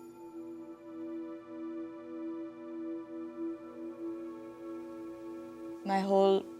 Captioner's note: bells ringing